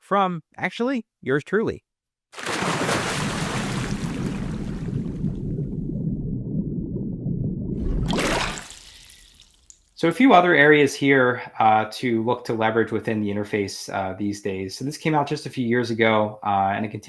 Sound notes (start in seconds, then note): 2.3 water splashing